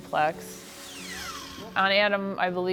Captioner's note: saw whirring